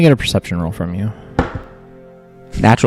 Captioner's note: die rolls